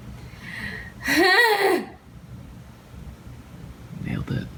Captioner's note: woman groans loudly